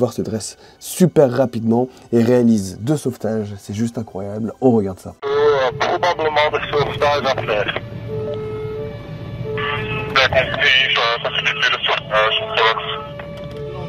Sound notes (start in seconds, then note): 4.9 radio message